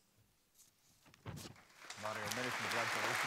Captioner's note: applause